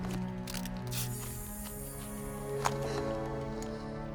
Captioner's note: lock hisses